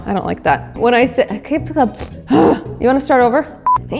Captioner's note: stumbles over words